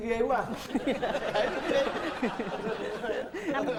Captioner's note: laughing